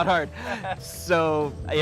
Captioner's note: laughter